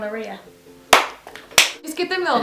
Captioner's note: claps